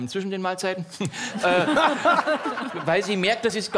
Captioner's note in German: Lachen